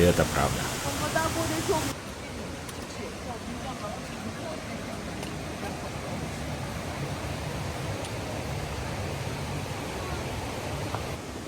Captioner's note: sound of water